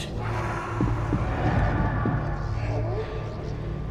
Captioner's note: voice growls